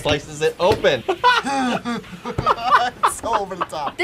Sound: both laugh

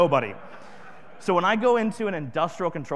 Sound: audience laughing

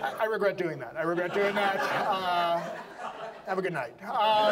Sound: audience laughs

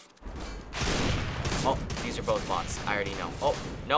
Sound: gun blasting

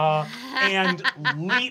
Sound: Fig laughs

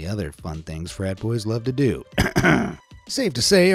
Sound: clears throat

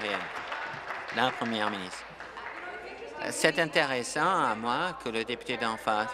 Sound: applause

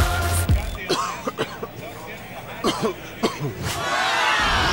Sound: coughing; audience exclaims

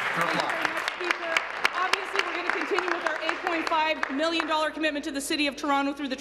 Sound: applause

